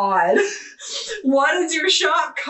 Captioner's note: laughing